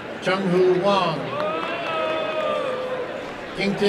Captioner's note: applause and cheering